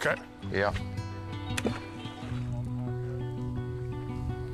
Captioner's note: decoys splashing